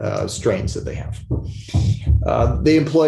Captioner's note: thumping sound